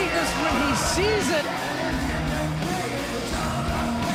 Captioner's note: crowd cheering